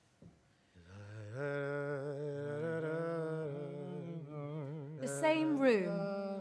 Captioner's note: reb shimsom hums a prayer